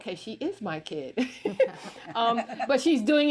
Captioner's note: everyone chuckles